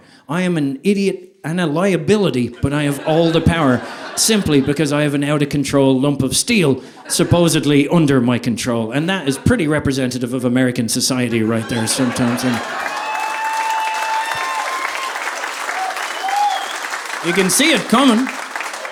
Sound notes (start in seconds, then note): 11.5 audience applauding